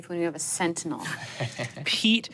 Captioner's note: chuckles